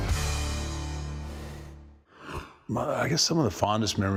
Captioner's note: rushing sound plays